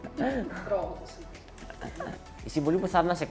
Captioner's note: laughs